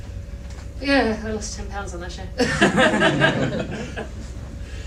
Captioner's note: laughter